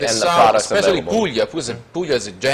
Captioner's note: Italian